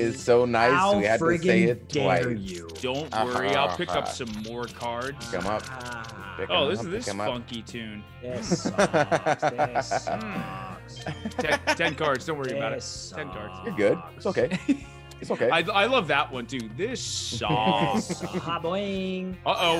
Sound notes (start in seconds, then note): 8.4 laugh